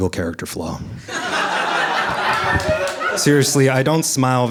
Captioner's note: audience laughing